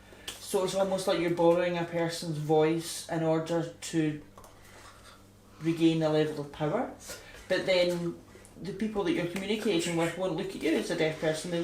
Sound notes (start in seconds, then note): none